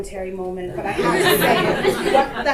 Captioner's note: audience laughter